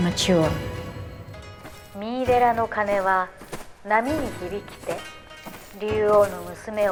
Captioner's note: soldiers speaking foreign language